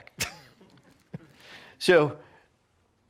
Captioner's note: chuckles